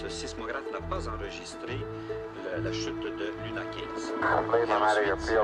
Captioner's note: french news report playing